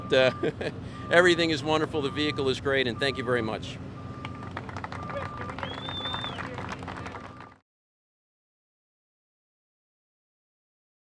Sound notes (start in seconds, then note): 0.2 laughing; 4.2 applause